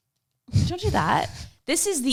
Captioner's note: laughs